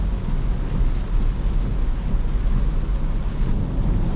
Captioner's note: turn signal lights